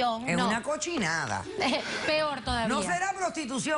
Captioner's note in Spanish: Risas